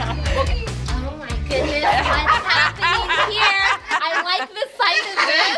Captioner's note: group laughing